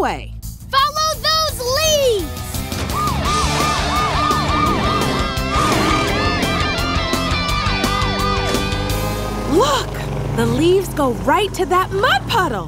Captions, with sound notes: Follow those leaves! [sirens blaring] Look, the leaves go right to that mud puddle.